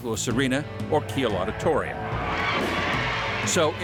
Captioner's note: audience cheering